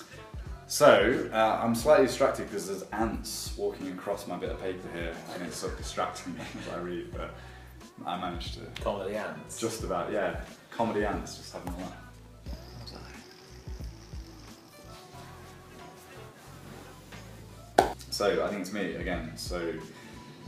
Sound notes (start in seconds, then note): 12.4 sound of gurgling wine